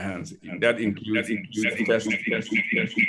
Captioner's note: echoing